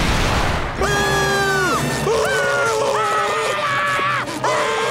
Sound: screaming

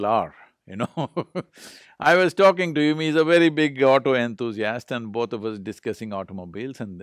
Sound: laughs

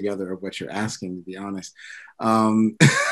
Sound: laughs

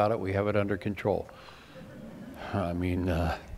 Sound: laughter

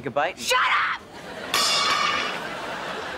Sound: thudding

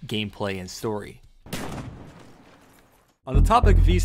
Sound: shotgun sound effect

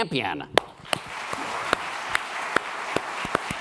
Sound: applause

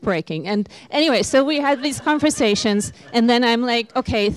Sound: laughter

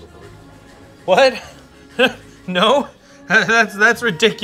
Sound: laughs

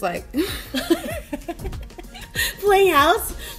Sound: laughter

